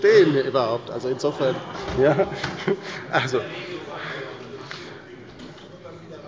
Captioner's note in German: Zurufe von der LINKEN: Oh!